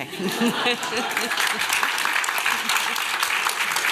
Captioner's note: applause